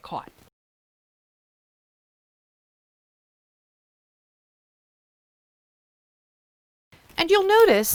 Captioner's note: no Sound Present